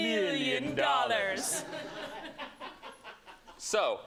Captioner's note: laughter